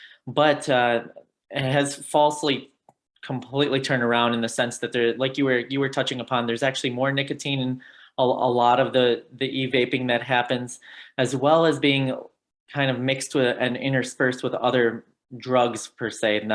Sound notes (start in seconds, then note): none